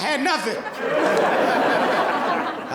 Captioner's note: audience laughing